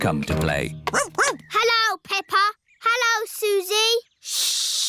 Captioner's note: barks